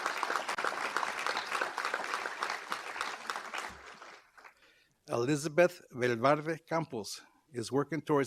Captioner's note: applause